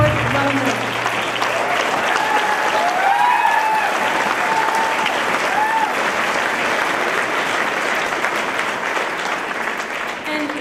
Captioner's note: applause